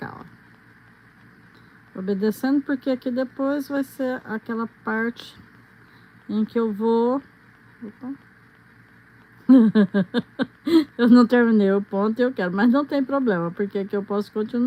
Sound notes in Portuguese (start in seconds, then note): 9.4 risadas